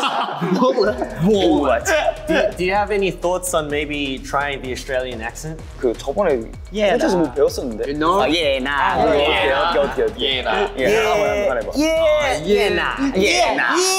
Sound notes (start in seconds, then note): 0.0 all laugh; 6.0 speaking Korean; 9.5 speaking Korean